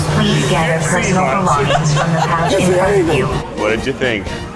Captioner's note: laughs